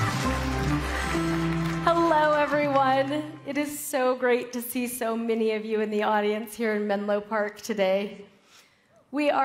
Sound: cheering

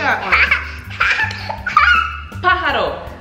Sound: laughs

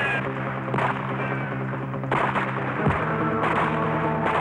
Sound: gunfire pops

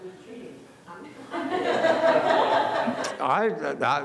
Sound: laughing

